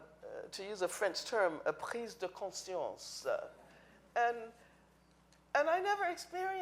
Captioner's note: speaking in foreign language